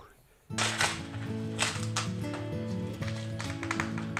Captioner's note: corn husks snapping